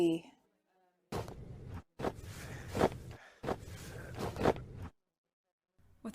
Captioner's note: muffled breathes and scuffling